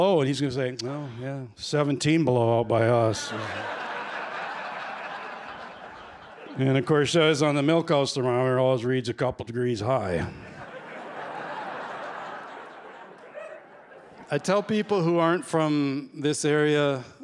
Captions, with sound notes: He's going to say, "Oh, yeah, 17 below by us." [laughter] And, of course, that's on the milk house thermometer. It always reads a couple degrees high. [laughter] I tell people who aren't from this area